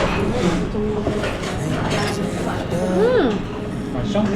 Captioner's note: slurping noodles